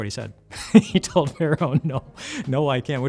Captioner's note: laughing